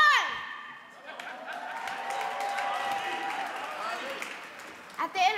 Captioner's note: audience clapping and cheering